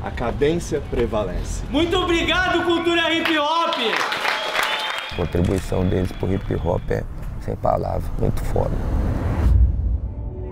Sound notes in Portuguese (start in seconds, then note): 3.2 Palmas